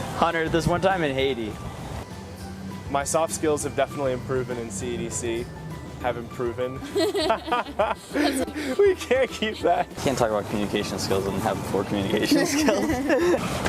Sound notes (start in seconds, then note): 6.8 laughing; 12.2 laughing